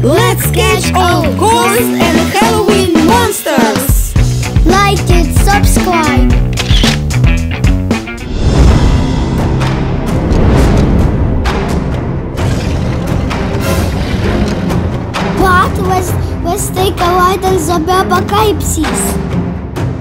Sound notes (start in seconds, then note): 6.6 photo camera sound; 8.1 scary Halloween music